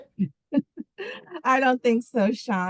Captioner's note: laughing